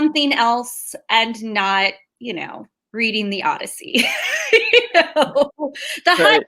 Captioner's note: laughs